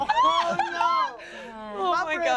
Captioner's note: everyone laughs